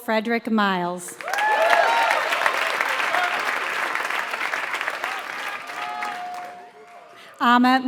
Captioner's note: applause